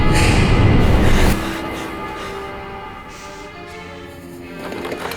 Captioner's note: Katie gasping